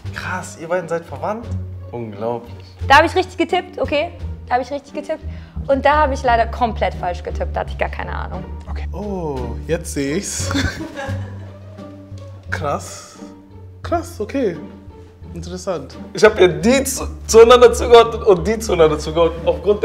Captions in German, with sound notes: Krass, ihr beide seid verwandt? Unglaublich. Da hab ich richtig getippt, okay. Da hab ich komplett falsch getippt, da hatte ich keine Ahnung. Oh, jetzt seh ich's! (Lachen) Krass. Krass, okay. Interessant. Ich hab ja die zueinander zugeordnet, und die zueinander zugeordnet